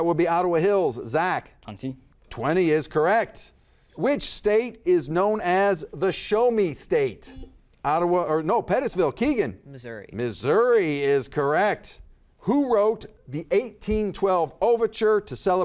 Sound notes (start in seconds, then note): 7.4 buzzer buzzes